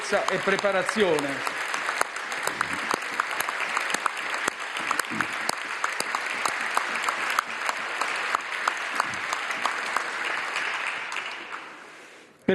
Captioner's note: roar of applause